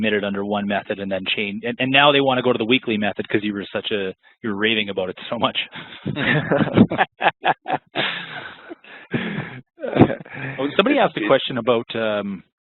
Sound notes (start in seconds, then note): 5.7 laughing